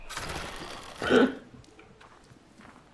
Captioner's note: gasps